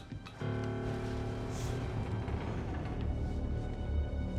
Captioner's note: house creaking